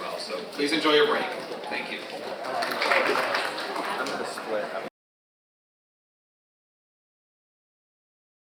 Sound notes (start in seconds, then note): 2.2 audience applauding